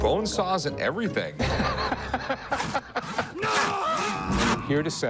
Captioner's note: laughter